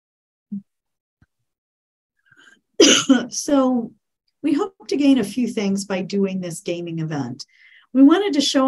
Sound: cough

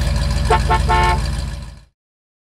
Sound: honking

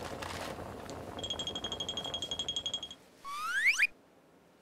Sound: scurrying

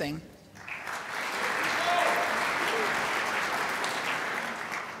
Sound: crowd applauds

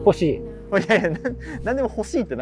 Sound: laughing

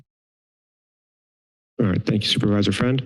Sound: silence

